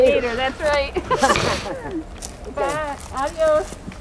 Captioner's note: laughing